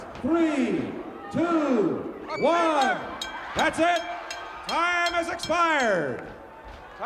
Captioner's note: none